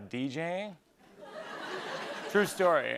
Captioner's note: laughter